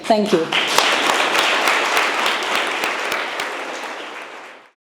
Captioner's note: audience applauding